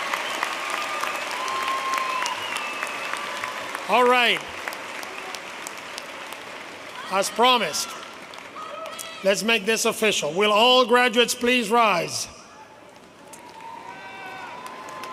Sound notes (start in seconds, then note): 1.9 cheers and applause